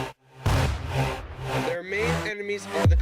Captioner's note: tank Fire